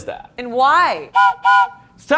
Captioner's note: whistle blows